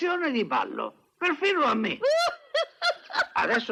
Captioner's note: laughs